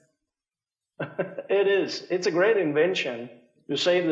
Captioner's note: chuckles